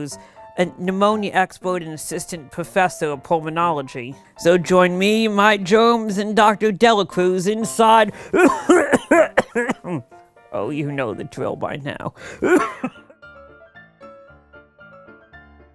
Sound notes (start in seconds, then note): 8.3 coughing; 12.3 coughing; 14.1 upbeat Piano Music